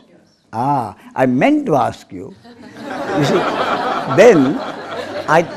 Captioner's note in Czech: smích